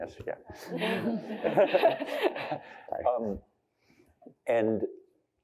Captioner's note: laughter